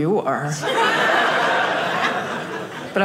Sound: audience laughing

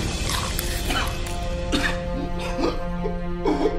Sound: eating noises; coughing; choking noises

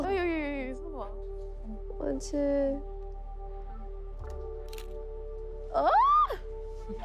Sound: speaks in foreign language; camera clicking; speaks in foreign language; screams

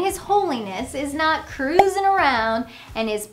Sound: graphics pop

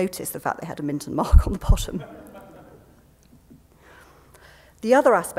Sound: laughter

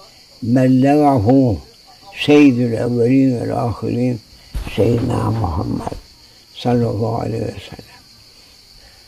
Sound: saws

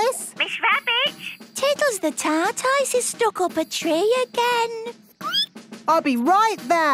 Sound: squeaking

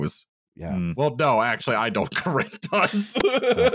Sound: laughs

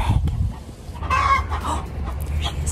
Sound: chicken growling

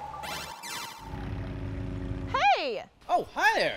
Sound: airplane motor running

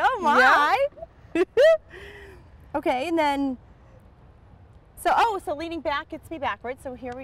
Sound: laughter

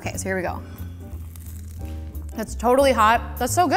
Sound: crunching

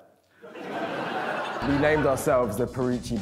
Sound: laughter

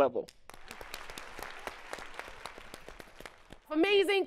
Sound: audience clapping

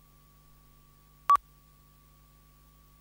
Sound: audio tone

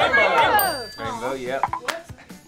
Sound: bell dings

